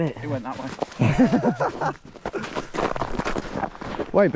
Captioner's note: men laughing